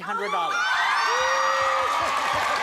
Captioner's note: cheering and applause